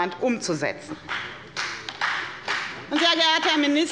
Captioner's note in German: Beifall bei der FDP